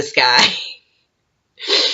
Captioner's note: laughs, sniffs